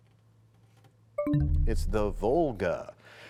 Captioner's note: bell chimes, time expires